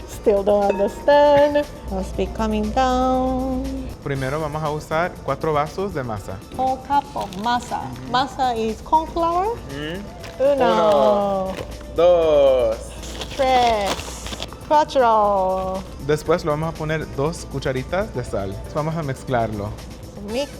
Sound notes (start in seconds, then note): 4.0 speaking Spanish; 10.6 counting in Spanish; 16.1 speaking Spanish